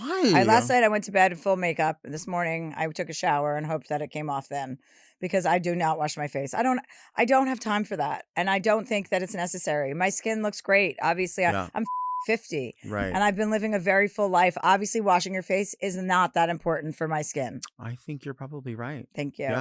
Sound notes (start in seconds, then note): 11.6 beep